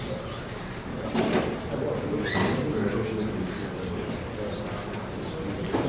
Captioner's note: audience murmurs